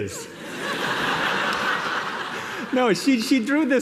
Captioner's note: laughter